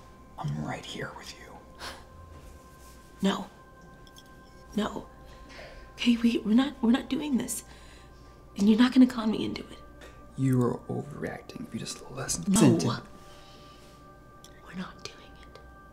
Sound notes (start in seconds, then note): none